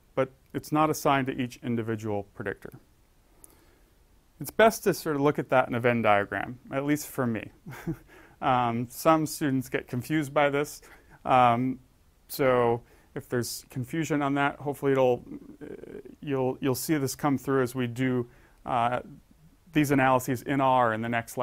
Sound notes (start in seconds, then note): 7.7 laugh